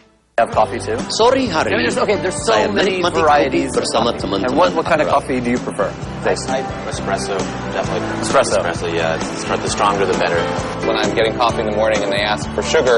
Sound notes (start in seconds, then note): 1.3 non-english speech